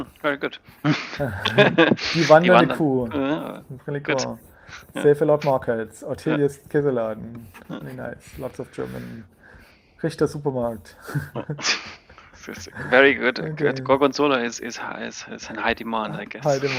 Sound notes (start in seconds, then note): 1.6 laughing; 10.2 laughing